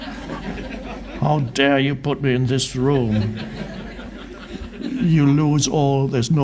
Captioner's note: crowd laughs